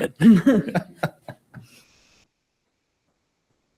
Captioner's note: all laugh